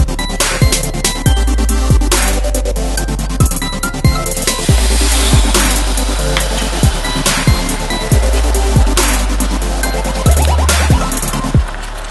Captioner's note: make vinaigrette soy sauce, boiling sound in the background